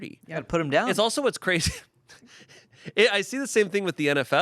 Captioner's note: laughs